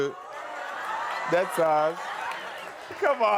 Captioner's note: crowd cheering